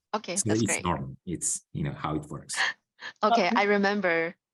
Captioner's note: laughs